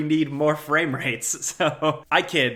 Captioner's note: laughs